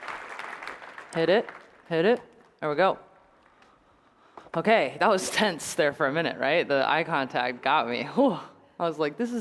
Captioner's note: applause